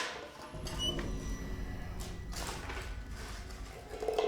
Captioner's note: door creaking open